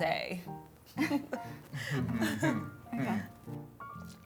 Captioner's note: awkward laugh